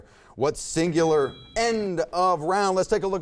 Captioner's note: bell ringing